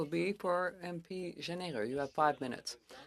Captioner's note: speaking in French